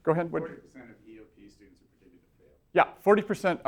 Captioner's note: voiceover